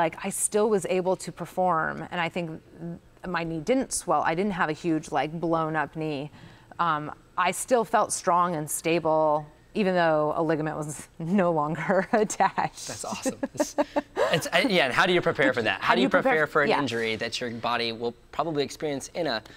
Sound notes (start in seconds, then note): 9.6 laughs; 13.0 both laughs